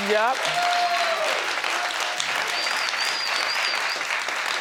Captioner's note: audience applause